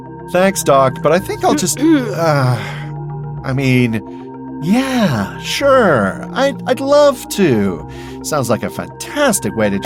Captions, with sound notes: Thanks, Doc, but I think I'll— [Minkowski clears her throat] Ah, I mean, sure, I'd love to. Sounds like a fantastic way to—